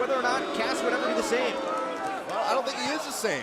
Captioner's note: crowd chatter